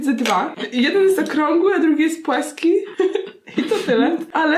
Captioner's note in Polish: haha